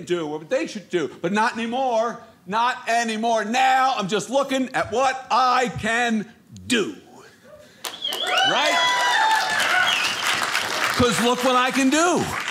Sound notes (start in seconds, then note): 7.8 audience applauding